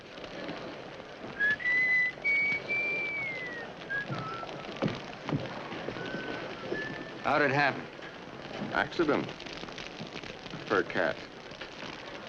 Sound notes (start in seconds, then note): 1.4 Judge Crenshaw whistles; 11.4 fire crackling